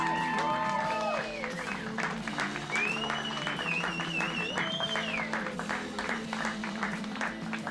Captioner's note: cheering